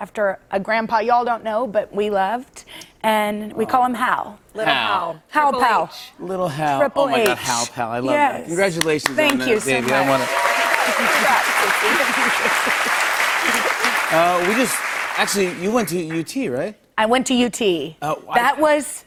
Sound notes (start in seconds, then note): 9.2 cheers and applause